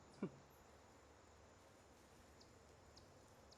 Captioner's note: chuckles